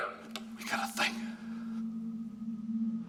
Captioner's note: whispering